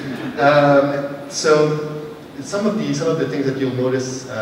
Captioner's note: laughter